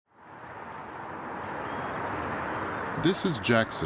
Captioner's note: traffic droning; birds chirping